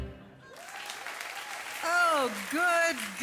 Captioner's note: audience applause